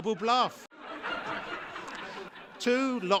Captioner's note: laugher